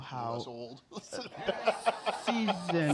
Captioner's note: laughter